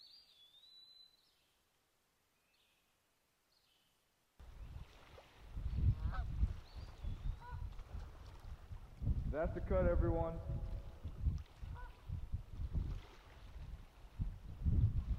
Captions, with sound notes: (duck quaking) - That's the cut everyone.